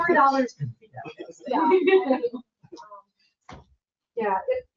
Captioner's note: members chattering